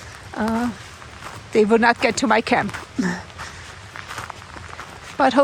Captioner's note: laughs